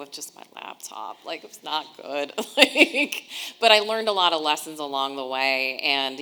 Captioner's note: laughing